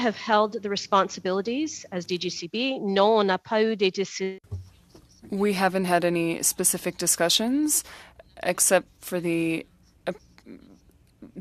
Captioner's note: speaking French